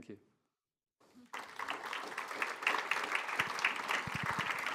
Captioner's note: audience applause